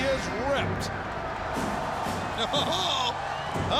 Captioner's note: crowd cheers